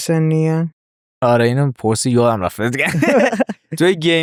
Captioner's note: laughs